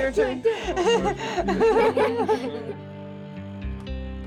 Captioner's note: laughter